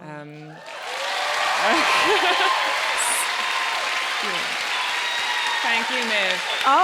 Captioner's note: audience cheering and applauding